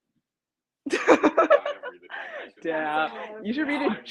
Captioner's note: laughs